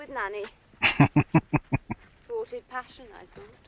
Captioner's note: chuckling